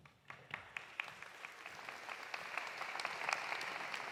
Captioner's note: audience applauding